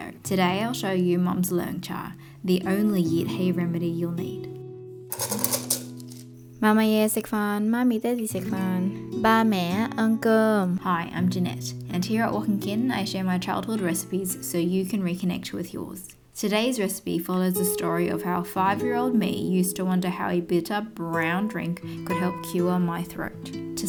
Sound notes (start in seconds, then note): 6.6 Cantonese